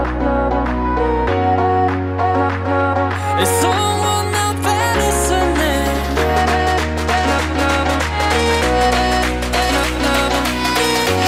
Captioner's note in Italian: Applauso